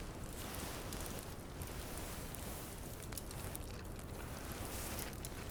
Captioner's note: none